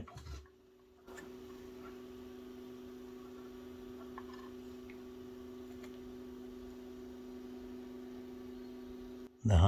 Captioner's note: humming sound